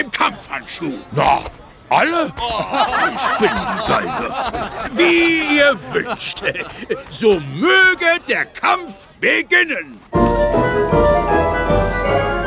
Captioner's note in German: gelächter